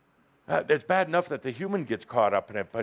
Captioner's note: none